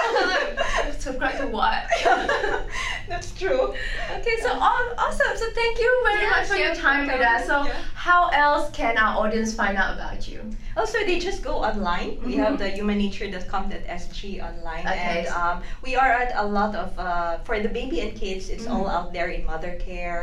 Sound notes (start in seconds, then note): 1.8 laugh